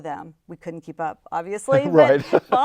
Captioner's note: laughs